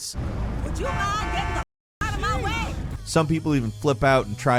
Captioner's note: people shouting